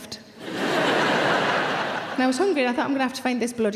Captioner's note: audience laughing